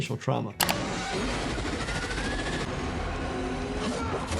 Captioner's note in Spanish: criatura gritando